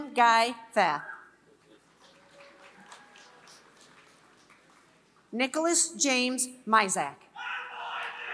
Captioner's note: applause; applause